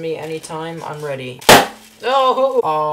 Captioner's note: bag pops